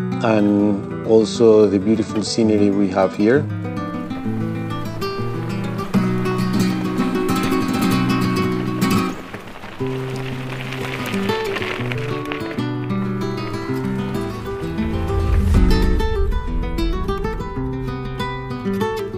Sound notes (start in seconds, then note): 3.7 gentle music; 3.7 river water running